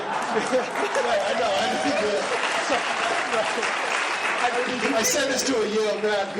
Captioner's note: laughing; laughing and applause